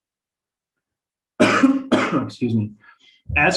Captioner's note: coughing